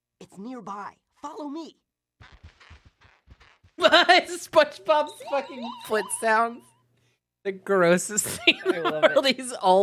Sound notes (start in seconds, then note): 2.2 Spongebob’s shoes squeaking; 4.6 laughing